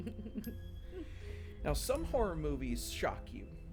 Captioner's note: all laughing